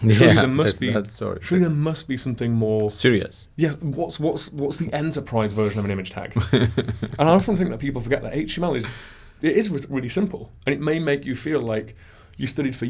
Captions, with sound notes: - Yeah, that's so true. Surely, there must be something more-- - Serious. - Yes, What's the enterprise version of an image tag? (laughs) And I often think that people forget that HTML, it is really simple, and it may make you feel like you studied